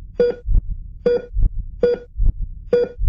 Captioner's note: machine beep; faster machine beeps